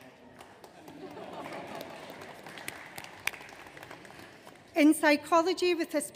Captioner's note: audience laughing